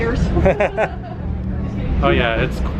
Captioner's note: laughter